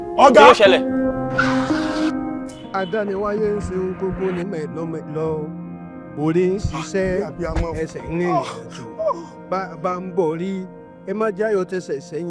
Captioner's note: chants